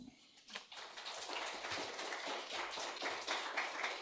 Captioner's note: audience clapping